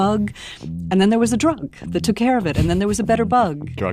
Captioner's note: laughs